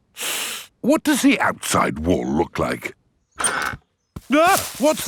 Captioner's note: inhales sharply; exclaims